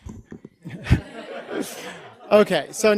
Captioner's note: audience laughter